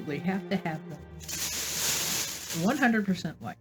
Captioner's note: plastic bag rustling